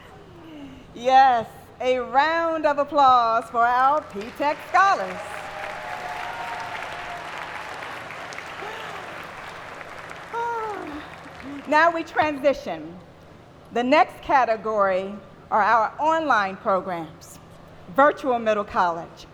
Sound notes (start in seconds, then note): 8.7 applause